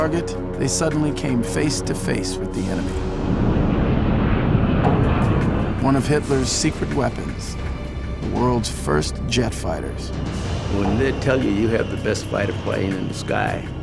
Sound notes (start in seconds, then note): 3.4 jet engines roaring